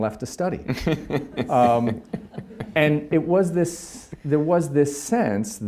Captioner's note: laughing